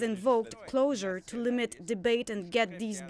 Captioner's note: speaking French